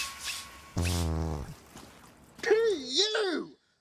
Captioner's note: loud farting